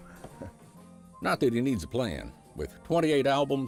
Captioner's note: laughing